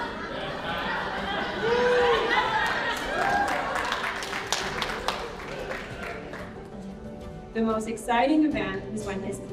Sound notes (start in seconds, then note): 4.6 cheering and applause